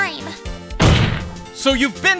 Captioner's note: slam